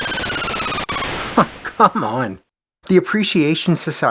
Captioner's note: chuckles